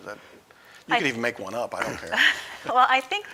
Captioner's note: chuckling